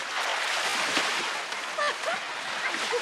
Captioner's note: laughing